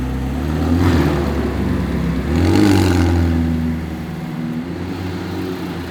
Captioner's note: engines roaring